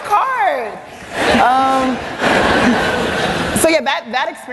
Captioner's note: laughter